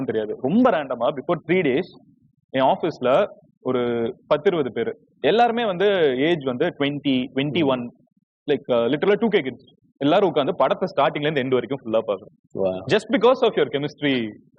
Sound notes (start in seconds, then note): none